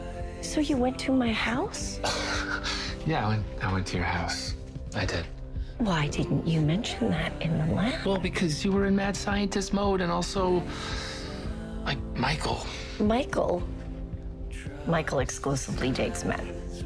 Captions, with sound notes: So, you went to my house? [ Chuckles ] Yeah, I went -- I went to your house. I did. Why didn't you mention that in the lab? Well, because you were in mad-scientist mode, and also... like, Michael. Michael? Michael exclusively dates men.